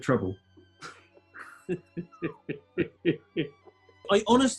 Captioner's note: chuckling